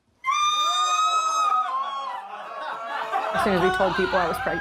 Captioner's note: parents screaming